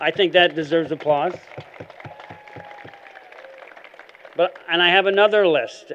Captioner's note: applause